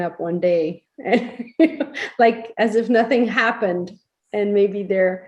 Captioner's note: laughs